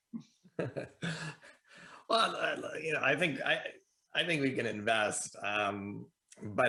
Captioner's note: laughs